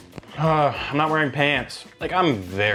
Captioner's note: exclaims